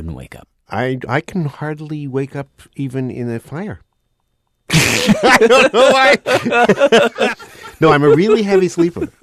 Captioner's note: laughs